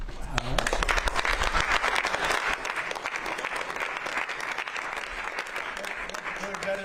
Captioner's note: applause